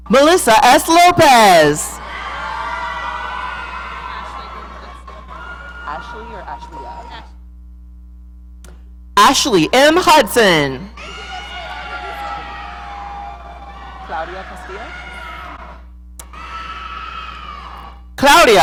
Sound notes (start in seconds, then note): 1.4 audience cheering; 10.8 audience cheering